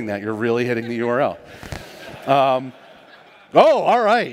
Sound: laughter

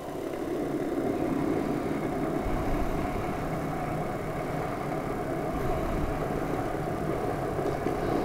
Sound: boiling water sound; furious boiling

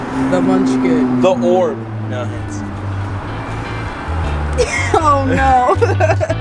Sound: woman laughs

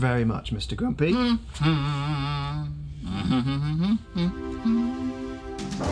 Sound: Mr. Grumpy humming; dynamic melodic music

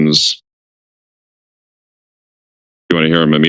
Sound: silence

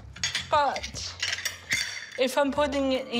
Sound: metal rattles

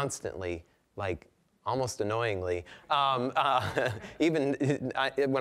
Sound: laughing

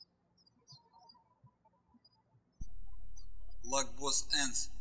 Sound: birds chirping

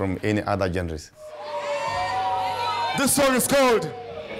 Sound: audience cheers

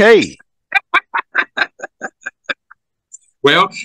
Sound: laughs

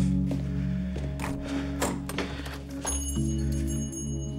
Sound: door opens, bell jingles

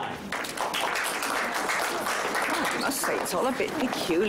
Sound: audience clapping

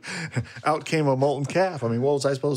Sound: laughing

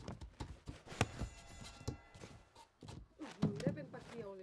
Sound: bell rings

